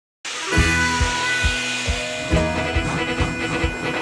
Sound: train chugging

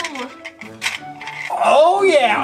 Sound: balls clanking

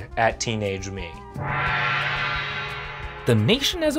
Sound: gong rings

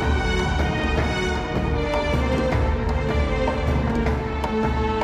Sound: none

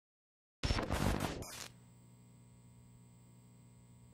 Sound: static crackling

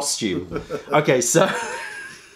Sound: laughter

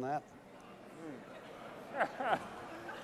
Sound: laughter

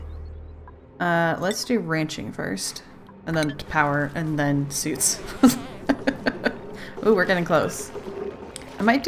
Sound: laughs

